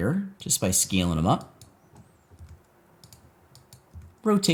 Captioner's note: mouse clicking